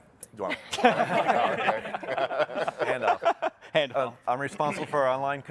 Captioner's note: panel laughing